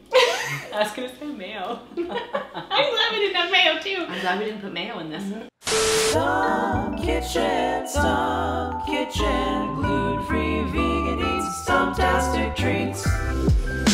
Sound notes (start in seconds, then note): 0.1 laughs; 1.9 both laughing; 5.6 static looping